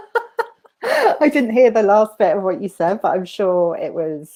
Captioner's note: laughing